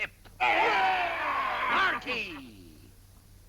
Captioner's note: cheering